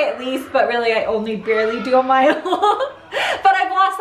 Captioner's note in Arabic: ضحك